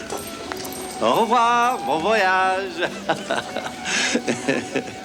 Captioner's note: chuckles